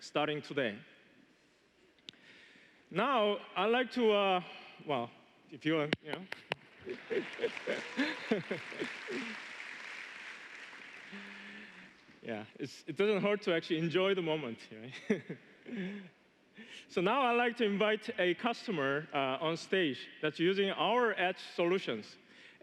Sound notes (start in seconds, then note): 11.5 applause